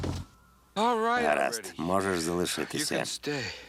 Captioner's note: sighing